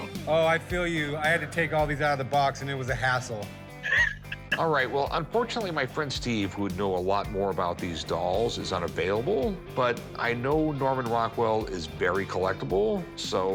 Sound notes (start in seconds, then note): 3.8 laughs